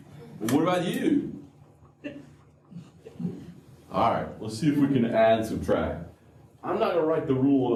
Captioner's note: laughter